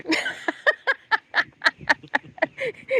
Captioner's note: laughing